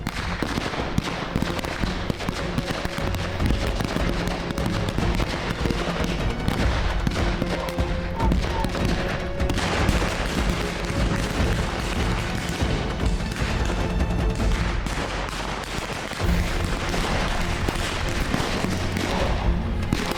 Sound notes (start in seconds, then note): 5.1 guns continue banging; 5.1 suspenseful music continues; 14.2 guns continue banging; 15.0 suspenseful music continues